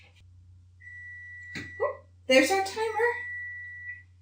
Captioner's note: beeping